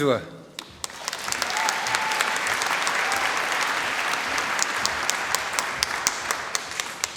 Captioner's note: applause